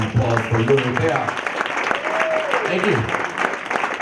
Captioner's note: audience cheers